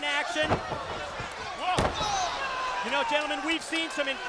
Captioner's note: applause